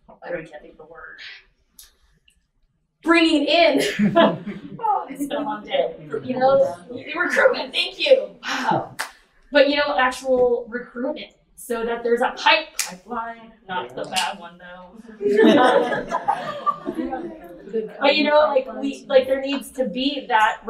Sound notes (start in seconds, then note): 3.7 laughs; 12.4 claps